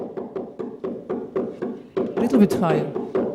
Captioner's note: soft bang